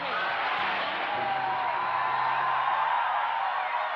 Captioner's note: audience cheering